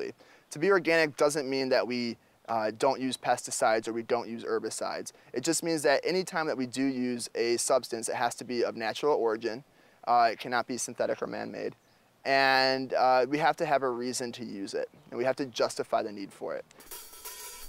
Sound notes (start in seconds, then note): none